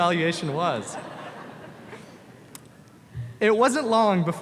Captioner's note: audience laughs